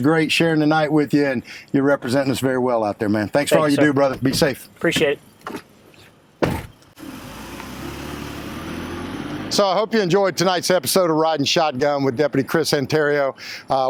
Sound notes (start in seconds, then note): 6.4 door closing; 6.9 engine revving